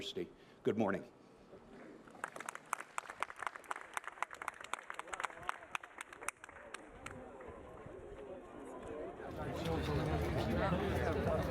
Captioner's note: applause